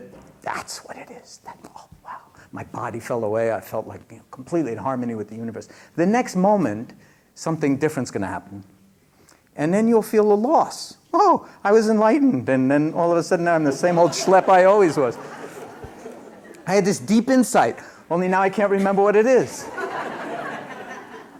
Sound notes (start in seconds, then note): 15.8 laughter; 21.2 laughter